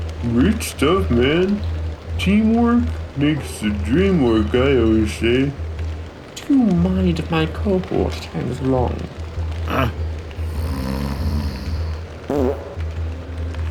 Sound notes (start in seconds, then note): 10.4 snoring; 12.2 fart